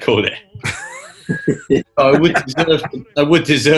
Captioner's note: giggling